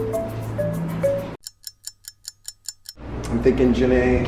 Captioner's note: gentle upbeat music; clock ticks